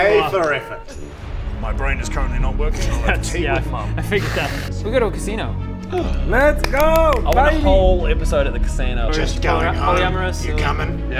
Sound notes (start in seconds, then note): 5.9 gasp